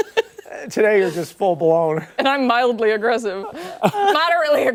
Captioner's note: laughter